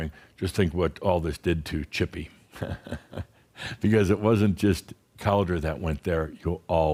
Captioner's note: Adamus chuckles